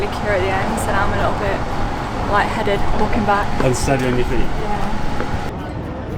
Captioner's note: laughing